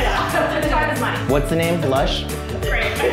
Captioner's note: background laughter